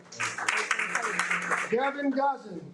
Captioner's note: audience applauding